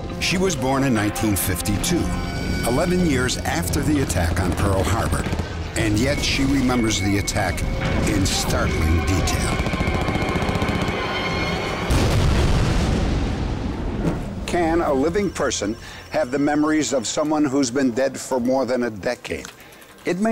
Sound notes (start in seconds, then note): 8.1 gunshots; 11.8 boom